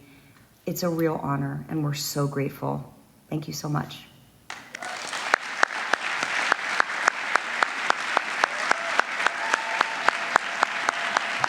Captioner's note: applause